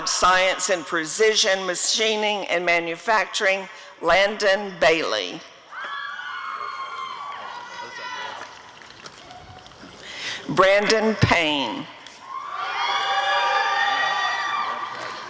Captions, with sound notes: in Precision Machining and Manufacturing— Landon Bailey [applause and cheering] Brandon Payne [audience cheering]